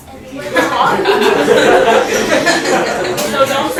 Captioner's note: laughter